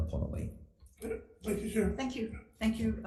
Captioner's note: speaks foreign language